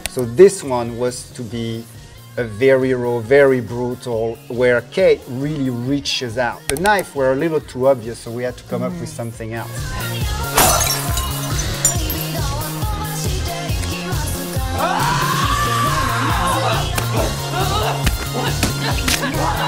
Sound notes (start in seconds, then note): 10.5 glass shatters; 14.7 screams